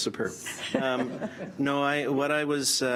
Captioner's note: laughs